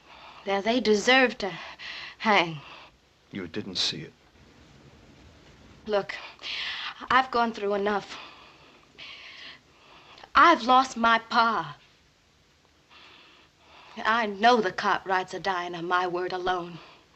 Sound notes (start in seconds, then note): none